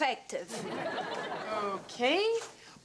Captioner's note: audience laughs